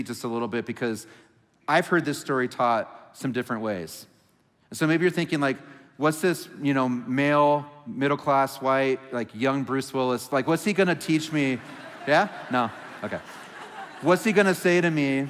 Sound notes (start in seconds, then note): 11.1 congregation laughing